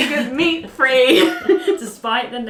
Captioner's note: laughing